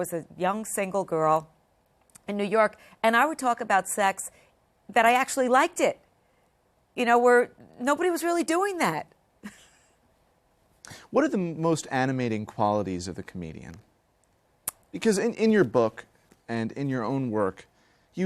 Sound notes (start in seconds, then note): 9.4 laughter